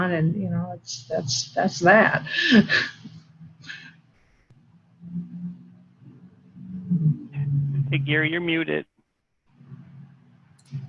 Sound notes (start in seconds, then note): 2.3 laughing